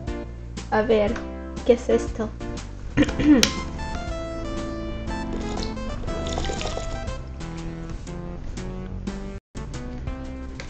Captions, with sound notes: Let's see What's this? [clears throat] [water ASMR]